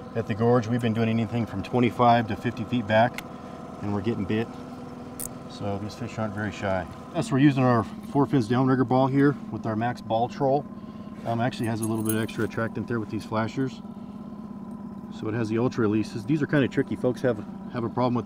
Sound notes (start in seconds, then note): 6.5 boat engine idling